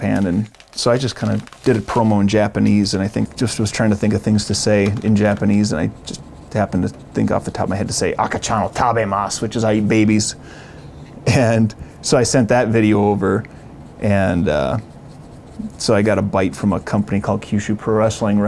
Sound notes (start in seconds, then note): 8.4 speaking foreign language; 11.5 laughing